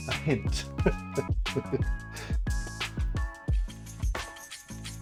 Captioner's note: laughs